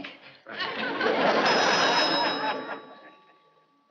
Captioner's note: phone rings